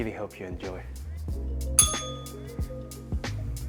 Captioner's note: bell rings